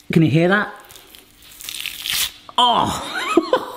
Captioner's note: meat crunches; laughs